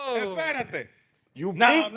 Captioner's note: all Yelling